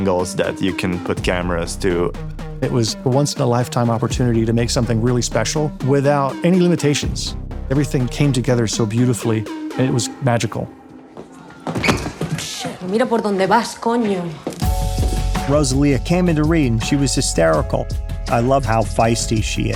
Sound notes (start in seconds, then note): 12.9 speaking spanish